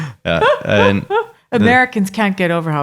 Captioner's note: laughing